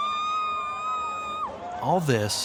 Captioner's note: cheering